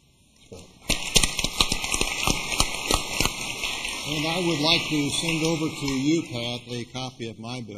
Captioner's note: applause